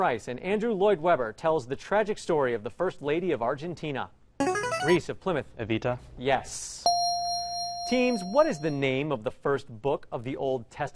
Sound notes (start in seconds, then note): 4.4 ringer; 6.8 ding